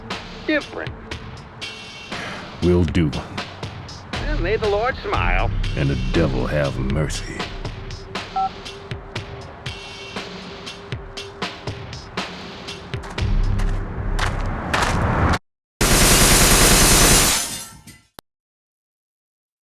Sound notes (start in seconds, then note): 8.3 cellphone beep; 13.1 gravel crunching; 15.8 rapid-fire gunshots